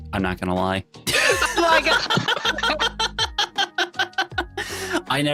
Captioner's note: laughing